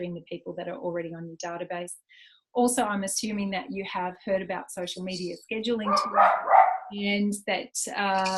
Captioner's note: excuse random dog barking from an unmuted delegate - oops!